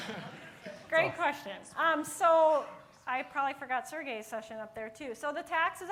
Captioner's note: laughter